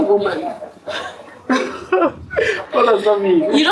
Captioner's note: laughs